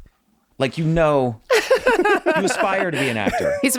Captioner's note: laughing